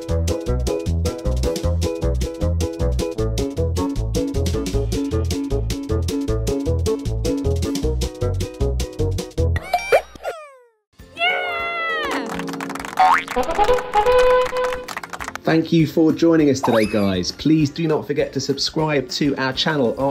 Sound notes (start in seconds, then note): 12.0 clapping